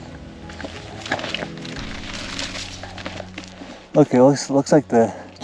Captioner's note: feet shuffling